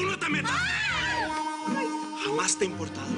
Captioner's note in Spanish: Gritos